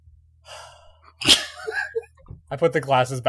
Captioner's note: sighing - laughter